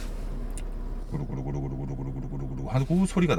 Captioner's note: intense engine sound impression